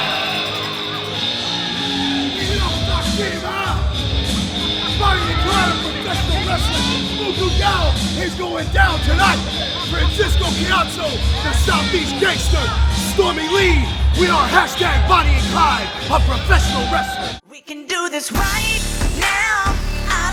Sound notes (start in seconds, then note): 0.0 crowd cheering; 0.2 electronic music playing; 2.3 indistinct shouting